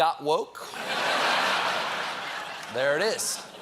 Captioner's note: laughter